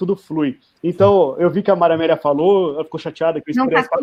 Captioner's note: multiple voices